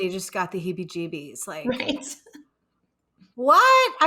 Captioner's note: chuckling